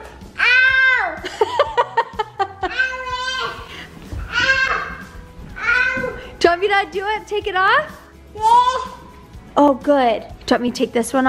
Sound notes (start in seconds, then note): 1.2 laughter; 3.8 screams